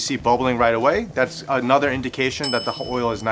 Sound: bell dinging

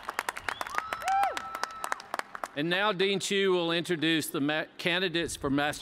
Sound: applause

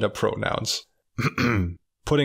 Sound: clears throat

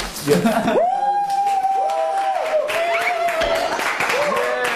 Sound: Sims give a big laugh

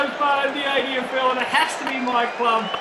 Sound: laughing

